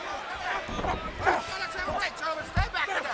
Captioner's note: wrestlers grunting